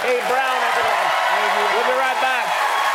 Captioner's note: applause